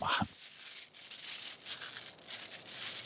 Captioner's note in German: Rascheln